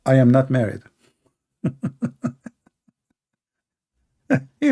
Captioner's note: Ketawa